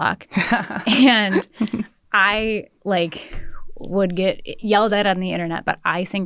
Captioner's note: laughter